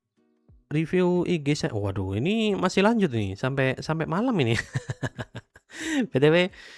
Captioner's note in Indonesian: tertawa